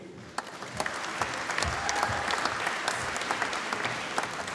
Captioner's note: applause